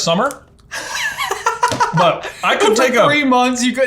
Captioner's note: laughs